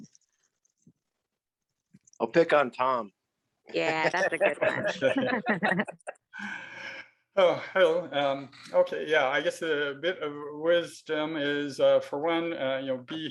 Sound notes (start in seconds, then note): 3.9 laughing